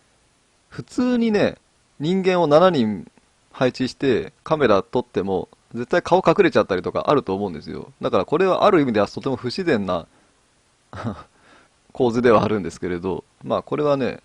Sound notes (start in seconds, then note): 10.9 laughs